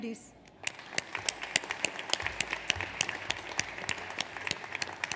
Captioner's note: audience applauds